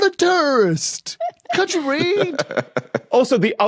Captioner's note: laughs